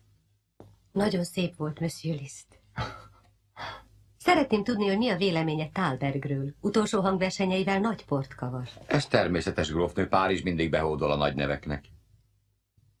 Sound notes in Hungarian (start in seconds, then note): 2.8 Liszt halk nevetése